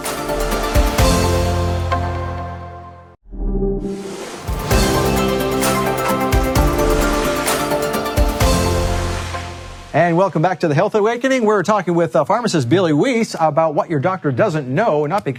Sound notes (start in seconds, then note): 0.0 upbeat instrumental music; 3.8 air swooshing; 4.2 upbeat instrumental music